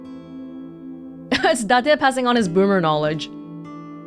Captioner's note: chuckles